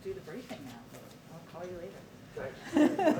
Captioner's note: laughter